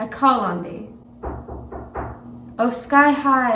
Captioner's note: knocking on door